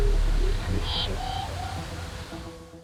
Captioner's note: sound twanging